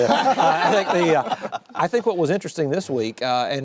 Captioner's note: laughter